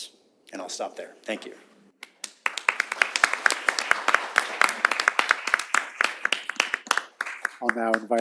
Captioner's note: applause